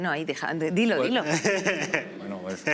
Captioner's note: laughs